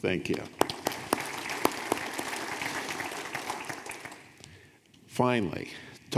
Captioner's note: audience applauding